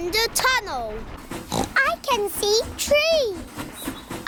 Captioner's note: oinks